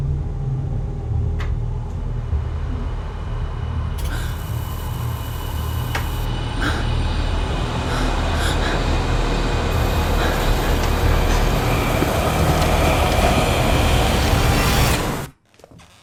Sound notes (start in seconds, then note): 0.6 clicking; 3.1 fans humming